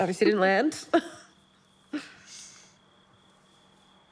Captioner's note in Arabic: كلاهما يضحك